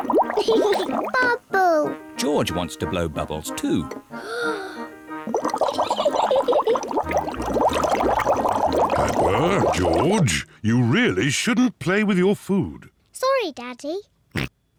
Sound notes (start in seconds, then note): 0.3 laughs; 4.1 takes big breath; 5.8 giggles; 14.1 oinks